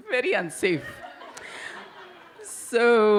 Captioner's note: audience laugh